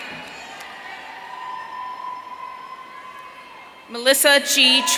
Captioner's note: audience cheering